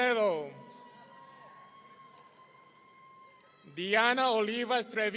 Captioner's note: audience cheering